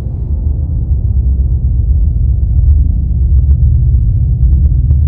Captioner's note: eerie vibrations